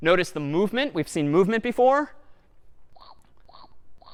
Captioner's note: chomping sounds